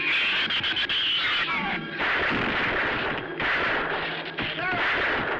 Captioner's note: gunshots